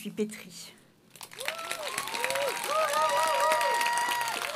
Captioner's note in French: Applaudissements